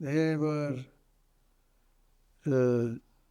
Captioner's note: pauses 10 seconds